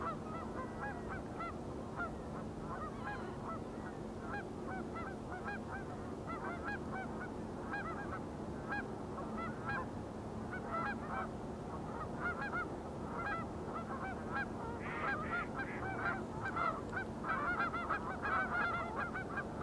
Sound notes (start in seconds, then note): 14.7 birds chirping